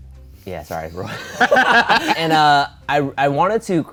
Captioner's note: laughing